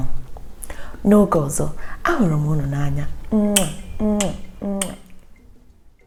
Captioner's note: kisses